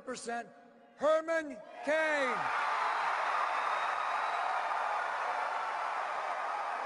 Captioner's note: cheers and applause